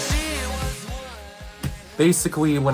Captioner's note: slaps knees